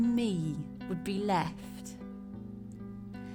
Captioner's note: none